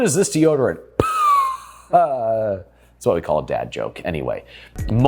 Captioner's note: wheezes